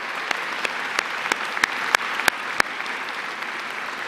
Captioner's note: applause